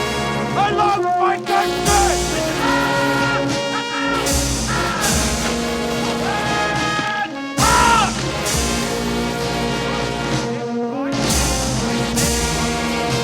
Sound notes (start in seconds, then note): 2.6 band playing loudly; 2.6 officer screaming orders